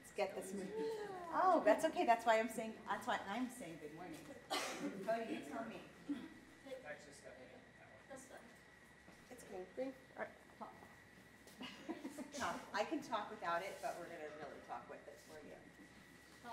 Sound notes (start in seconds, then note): 4.8 audience mumbling